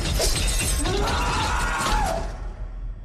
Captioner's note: Mike screams